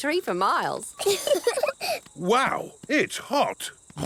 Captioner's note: laughing; snorts